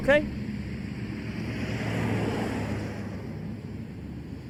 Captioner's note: engines rumbling